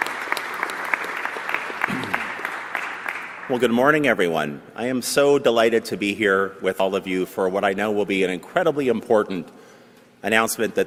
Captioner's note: applause